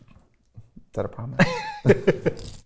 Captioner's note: laughing